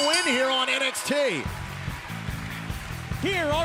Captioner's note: bell ringing